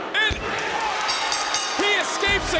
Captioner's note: bell rings